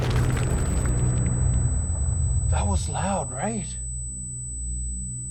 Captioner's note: explosion blasts; feedback whistles